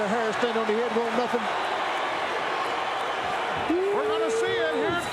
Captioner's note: audience cheering